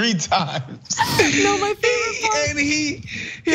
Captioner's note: laugh